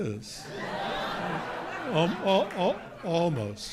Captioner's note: audience laughing